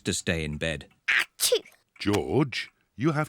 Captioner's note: sneezes